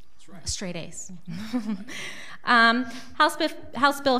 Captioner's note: laughs